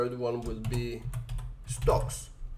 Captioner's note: keyboard typing